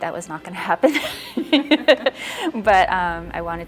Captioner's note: laughs